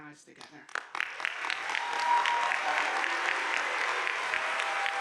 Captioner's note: audience applauding